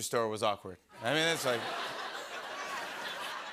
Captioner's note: laughter